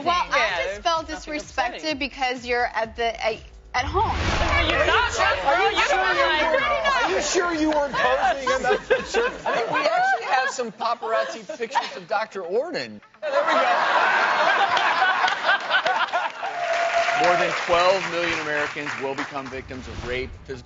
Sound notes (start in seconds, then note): 9.4 laughs; 13.2 laughs